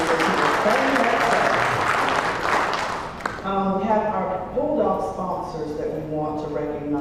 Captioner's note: applause